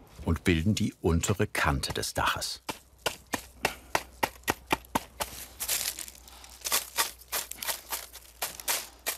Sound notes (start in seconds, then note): 3.2 knocking noises; 6.9 rustling